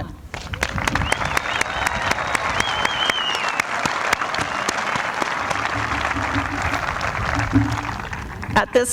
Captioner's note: applause